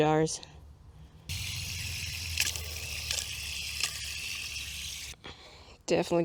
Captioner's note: hose noises